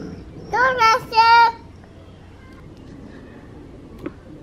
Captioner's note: baby exclaims